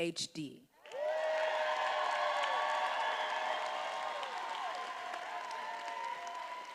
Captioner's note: attendees applauding and cheering